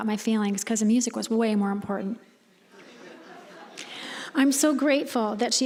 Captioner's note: audience chuckling